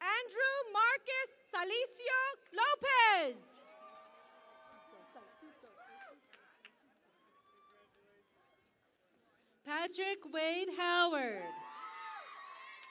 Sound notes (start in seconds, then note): 3.5 cheering and Applause; 11.4 cheering and Applause